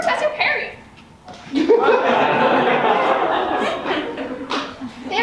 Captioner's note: audience laughs